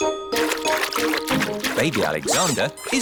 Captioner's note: splashing